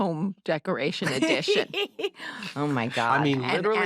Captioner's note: laughs